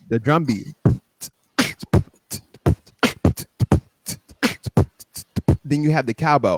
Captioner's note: beat-boxing